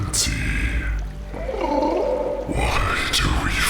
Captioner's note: gurgles